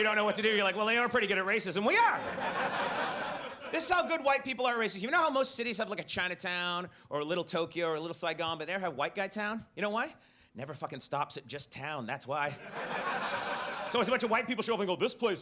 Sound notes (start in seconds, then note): 2.1 audience laughs; 12.6 audience laughs